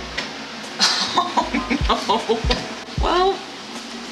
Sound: laughs

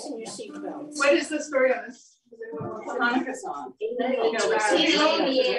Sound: chatter

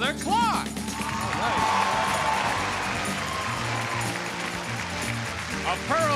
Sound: audience cheering

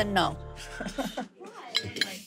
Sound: Vinny laughs

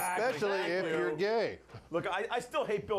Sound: bell rings

